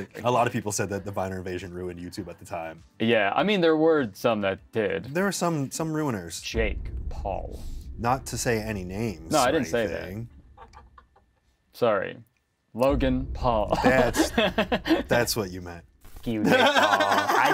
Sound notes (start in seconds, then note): 13.7 Kurtis laughs